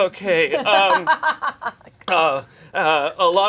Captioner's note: laughs